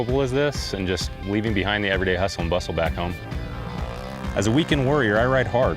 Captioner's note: UTV engine sounds